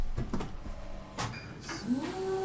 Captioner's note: whirring